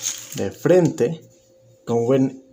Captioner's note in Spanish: Silencio